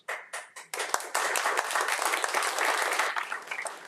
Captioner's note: audience applauding